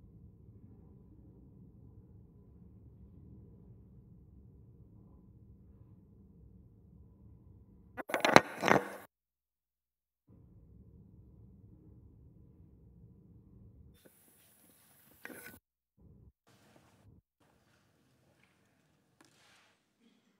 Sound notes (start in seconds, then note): 9.8 silence